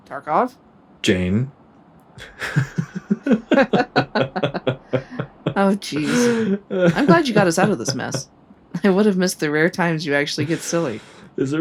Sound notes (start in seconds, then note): 2.2 both chuckle